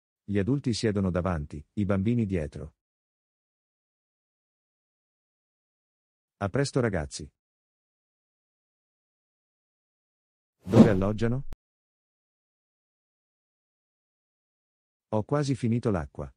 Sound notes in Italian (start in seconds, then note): 10.6 FX - Whoosh - 03